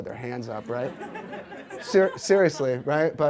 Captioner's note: audience laughs